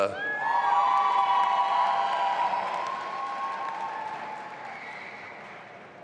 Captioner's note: audience applauding and cheering